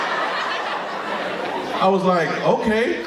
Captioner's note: audience laughing